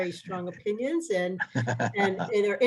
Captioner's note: laughter